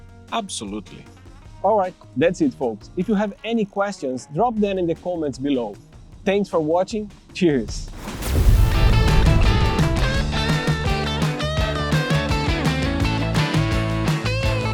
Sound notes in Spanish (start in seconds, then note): 7.8 Explosión del logo de BK42; 9.9 Música rock